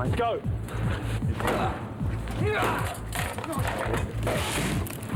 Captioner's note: banging on door